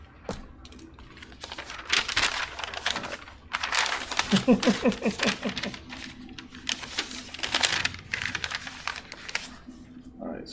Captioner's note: chuckles and rustles paper